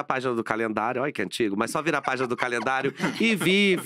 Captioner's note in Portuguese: risos